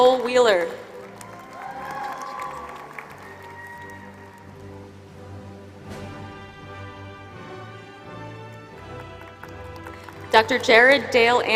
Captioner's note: applause